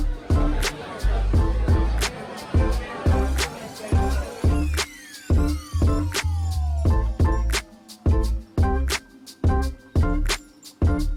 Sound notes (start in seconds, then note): 0.0 people chattering